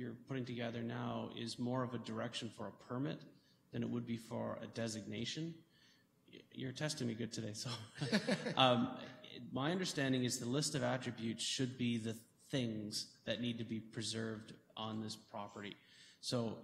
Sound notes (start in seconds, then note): 7.6 chuckles